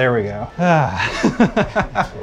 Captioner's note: laughing